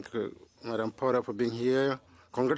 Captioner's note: speaking French